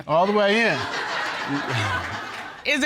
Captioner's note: audience laughing; chuckles